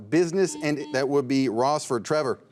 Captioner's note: buzzer beeps